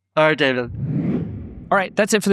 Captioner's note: wind swooshing